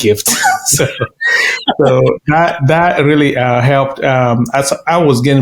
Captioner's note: laughing